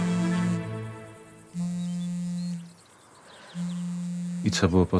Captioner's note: the phone rings